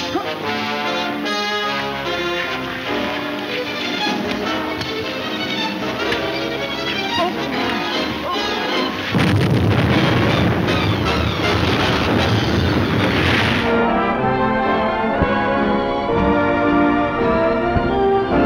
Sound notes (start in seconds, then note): 8.4 banging; 12.8 dramatic music